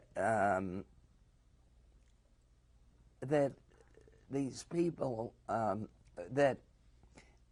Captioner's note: pauses for 3 seconds